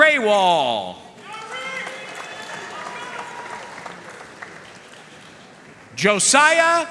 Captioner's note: audience cheering and applauding